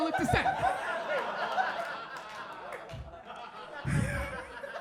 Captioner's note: audience laughs